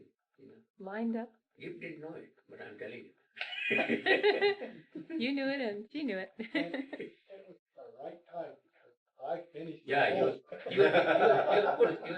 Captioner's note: laughter